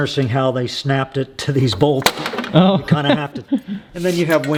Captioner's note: metal piece snaps